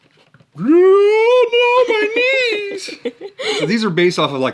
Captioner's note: screams